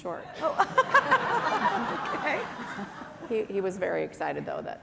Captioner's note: laughter